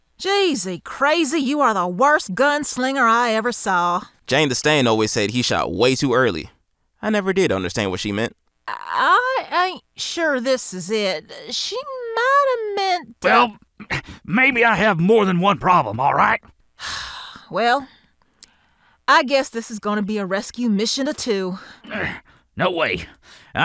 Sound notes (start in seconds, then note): 8.9 stammering; 16.8 Shannon sighing; 21.8 grunting in pain